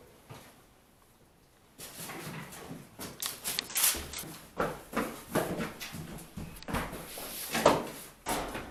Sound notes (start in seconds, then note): 4.1 loud footsteps